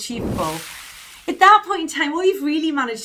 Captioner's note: whooshing sound